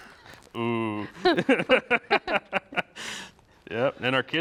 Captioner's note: both laughing